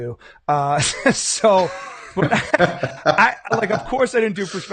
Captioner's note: laughing